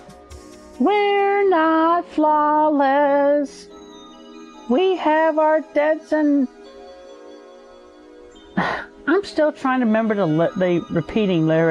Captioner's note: sigh